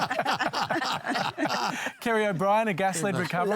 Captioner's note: laughter